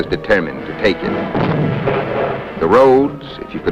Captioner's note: explosion